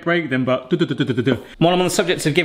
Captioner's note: mimicking bongo drums